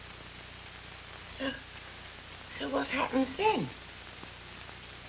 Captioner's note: gran, fearfully